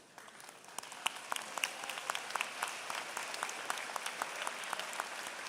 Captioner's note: applause